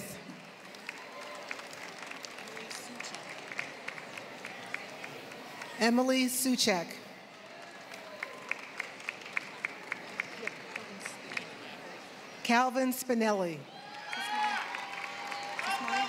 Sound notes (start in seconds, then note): 0.0 applause; 7.2 applause